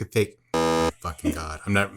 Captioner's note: buzzer sounds